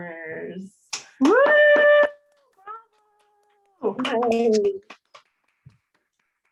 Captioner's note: applause